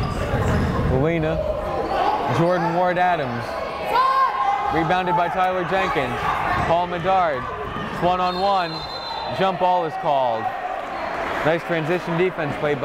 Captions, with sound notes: (yelling) Gallina, Jordan Ward-Adams, rebounded by Tyler Jenkins, Paul Medard, it's one on one. (whistle blowing) Jump ball was called, nice transition defense